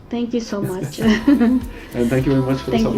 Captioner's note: laughing